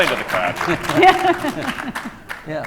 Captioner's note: laughing